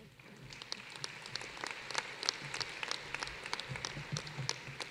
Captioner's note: applause